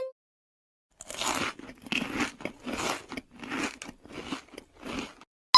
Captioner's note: crunching